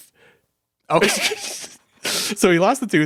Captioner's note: laughing